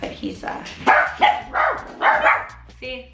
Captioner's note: barking